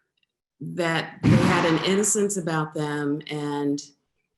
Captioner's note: loud bang